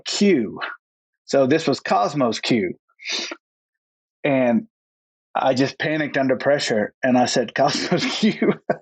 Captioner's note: laughs